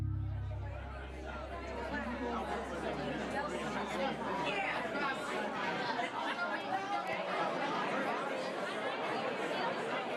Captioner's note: indistinct crowd chatter